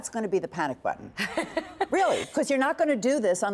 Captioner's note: laughter